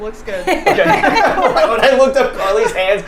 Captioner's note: all laughing